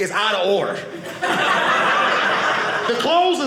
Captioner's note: audience laughing